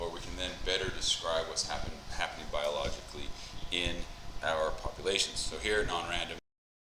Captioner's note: mic cuts out